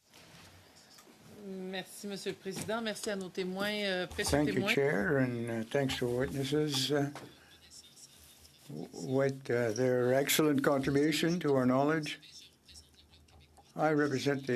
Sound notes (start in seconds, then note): 7.0 speaking French